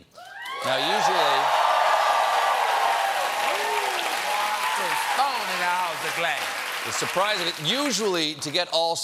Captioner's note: cheers and applause